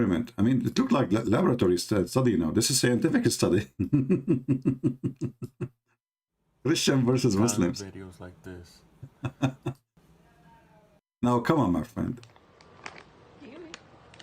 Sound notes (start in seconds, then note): 3.7 Ketawa